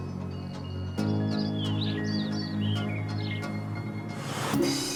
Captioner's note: birds chirping